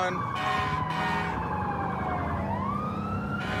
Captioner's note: emt sirens blaring